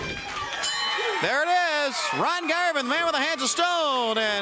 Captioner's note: bell ringing